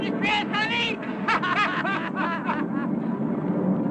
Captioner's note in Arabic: ضحك